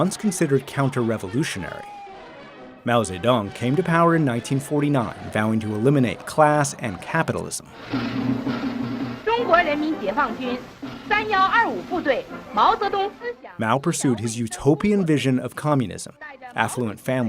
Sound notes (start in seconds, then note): 7.7 drums pounding; 9.8 speaking foreign language